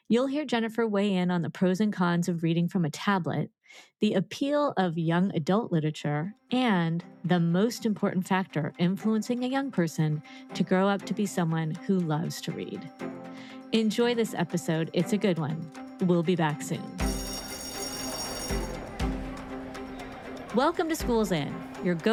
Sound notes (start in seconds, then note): 16.9 bell ringing; 17.2 bright music